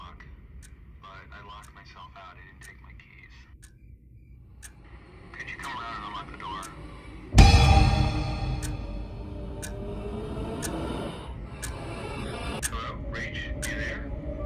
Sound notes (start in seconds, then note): 9.0 WOMAN IN THE BED breathes heavily